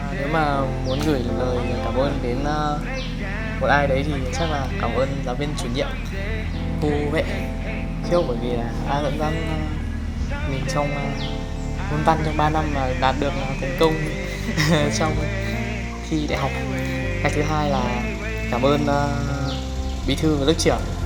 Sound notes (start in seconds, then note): 14.5 laughs